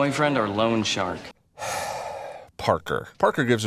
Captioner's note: deep breath